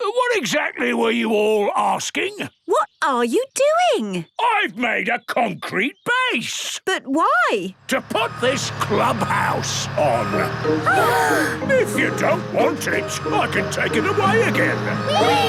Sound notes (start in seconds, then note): 10.8 children gasp